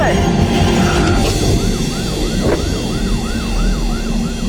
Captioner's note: siren wailing